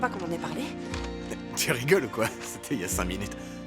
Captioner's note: chuckling